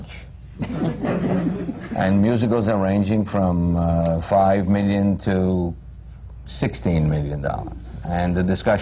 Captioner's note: laughter